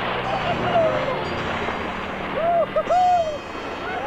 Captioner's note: all cheering